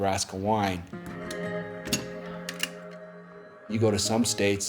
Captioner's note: clacking